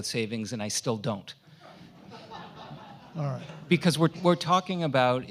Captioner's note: audience laughs